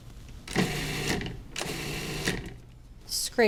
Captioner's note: blender pulsing